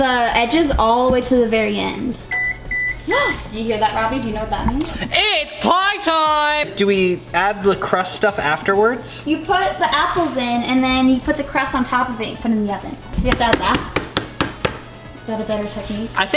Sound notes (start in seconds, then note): 2.2 timer beeping